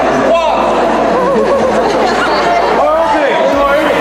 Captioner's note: laughing